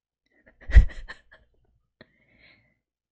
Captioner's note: laughs